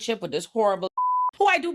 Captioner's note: beep